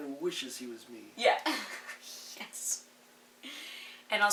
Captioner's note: laughs